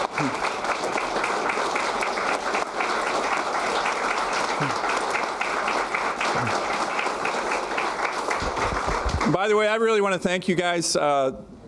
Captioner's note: applause